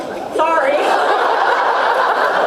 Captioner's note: laughs